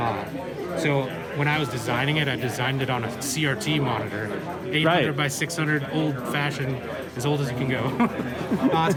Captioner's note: laughs